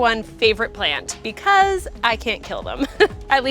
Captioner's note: laughs